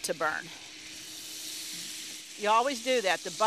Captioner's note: butter sizzling